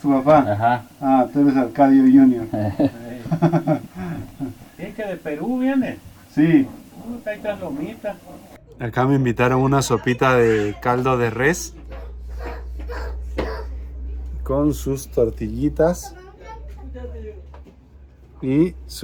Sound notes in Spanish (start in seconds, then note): 2.4 risas